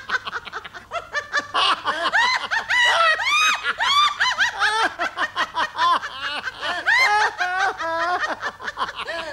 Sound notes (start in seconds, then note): 2.7 screams